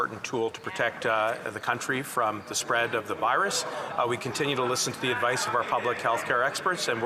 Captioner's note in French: voix de l'interprète